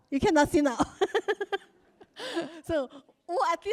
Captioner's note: laughs